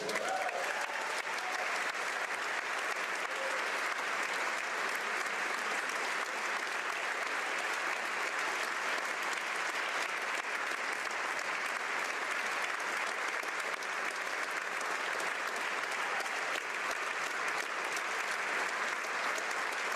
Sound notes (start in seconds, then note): 3.7 applause; 4.1 cheers